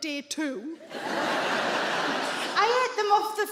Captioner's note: audience laughs